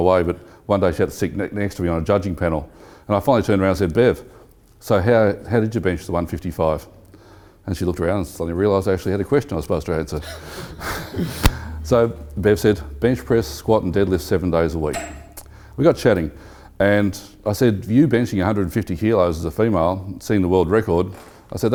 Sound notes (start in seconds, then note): 10.0 laughing